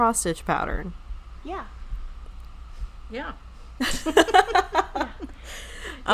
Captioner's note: laughing